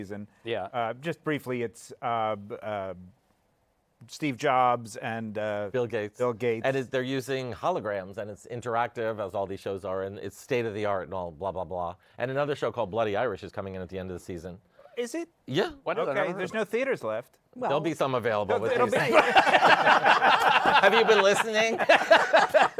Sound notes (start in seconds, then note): 18.6 laughter